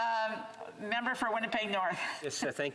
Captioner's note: speaking French